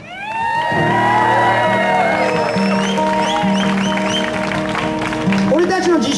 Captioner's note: audience cheers